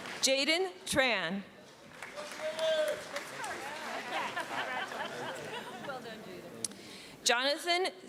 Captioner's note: cheering